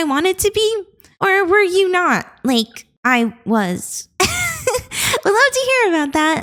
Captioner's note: laughs